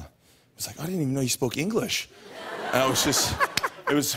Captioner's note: laughter